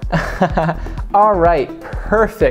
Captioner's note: chuckles